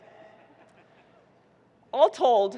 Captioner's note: audience chuckling